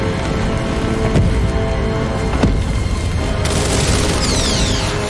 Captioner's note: tense music; footsteps thudding; weapon whirring